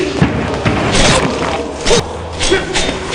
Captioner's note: metallic whooshing; thudding blows